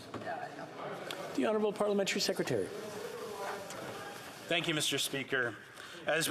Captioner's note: yelling